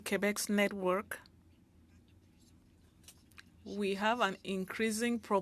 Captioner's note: speaking French